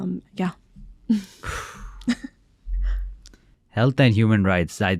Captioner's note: sighs